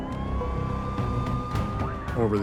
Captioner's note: sirens blaring